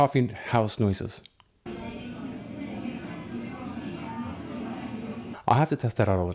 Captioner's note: coffeehouse noises